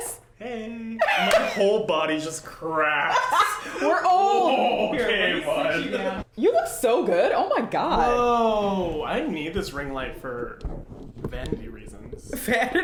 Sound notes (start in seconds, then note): 3.0 laughing